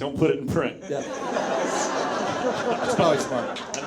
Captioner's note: audience laughs